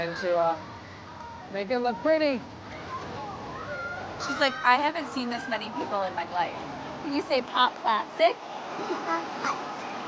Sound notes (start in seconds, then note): 8.8 laughs